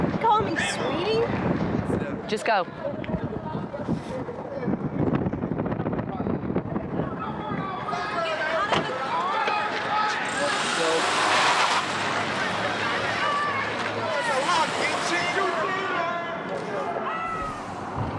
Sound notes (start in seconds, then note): 7.3 people yelling